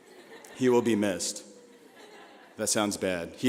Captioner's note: laughing